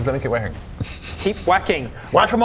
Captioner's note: snickering